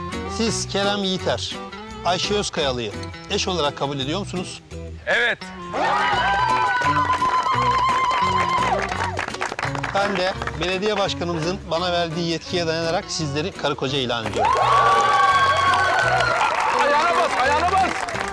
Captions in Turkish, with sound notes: Siz Kerem Yiğiter, Ayşe Özkayalı’yı eş olarak kabul ediyor musunuz? Evet. (Zılgıt çekiyor) Ben de belediye başkanımızın bana verdiği yetkiye dayanarak… …sizleri karı koca ilan ediyorum. Ayağına bas, ayağına!